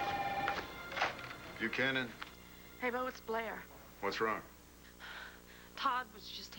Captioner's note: phone rings